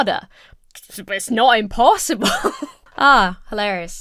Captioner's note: laughs